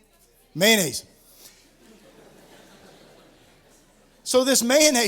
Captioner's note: laughter